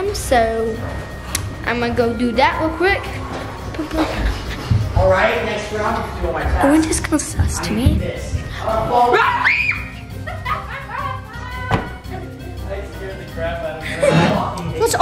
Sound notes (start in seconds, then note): 9.0 screaming; 10.4 laughing